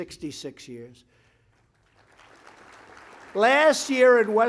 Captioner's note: applause